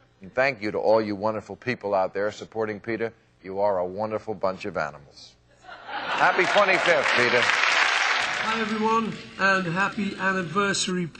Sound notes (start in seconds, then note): 8.1 crowd laughs; 11.0 crowd applauds